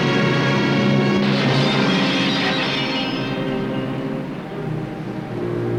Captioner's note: glass Breaking